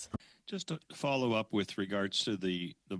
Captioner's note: speaking French